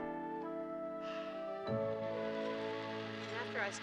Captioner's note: sighs